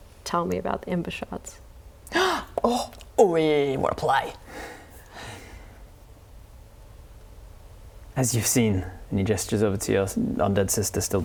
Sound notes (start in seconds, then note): 2.1 gasp